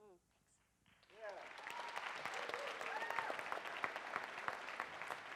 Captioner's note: audience applauds